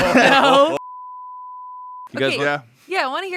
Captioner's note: beep